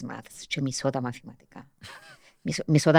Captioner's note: he laughs